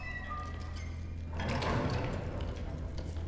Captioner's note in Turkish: Kapı Kapanma Sesi